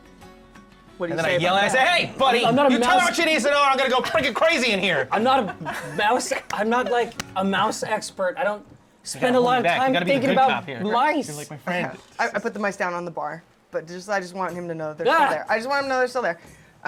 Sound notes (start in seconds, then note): 2.0 shouting